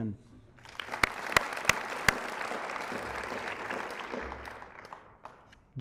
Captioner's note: applause